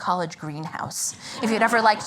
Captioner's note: laughter